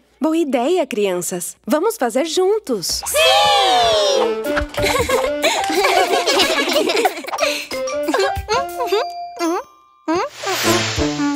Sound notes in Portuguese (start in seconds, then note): 4.7 Risos